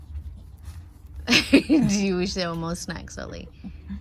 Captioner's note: laughs